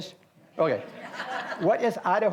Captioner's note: audience laughs